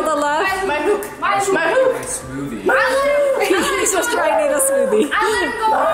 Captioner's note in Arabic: أطفال يمزحون بضوضاء